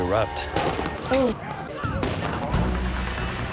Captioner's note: voiceover